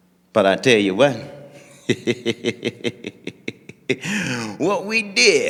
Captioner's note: laughing